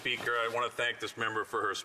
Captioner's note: speaking French